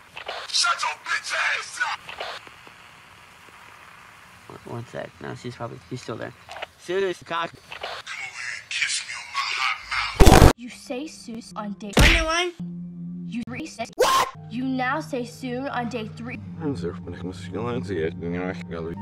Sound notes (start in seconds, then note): 2.1 more static